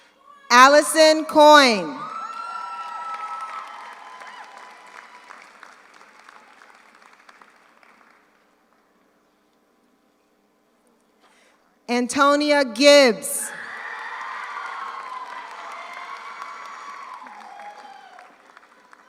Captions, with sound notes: Alison Coyne. (audience cheers) (audience applauds) Antonia Gibbs. (audience cheers) (audience applauds)